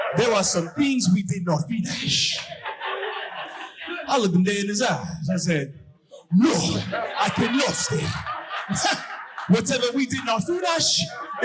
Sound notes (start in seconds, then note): 6.4 imitating African accent; 8.4 audience laughing